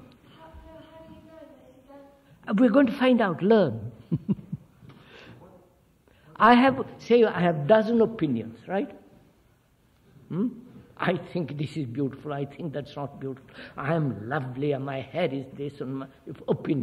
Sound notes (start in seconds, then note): 4.0 laughs